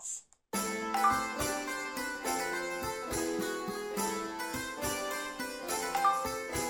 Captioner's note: mysterious music; Twitter chimes; Twitter chimes